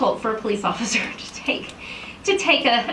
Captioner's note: chuckles